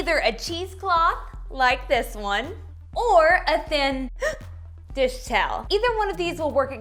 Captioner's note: gasping